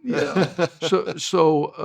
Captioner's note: laughs